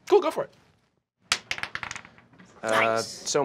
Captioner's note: dice clacking